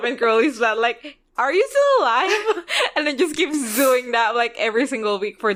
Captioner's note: laughs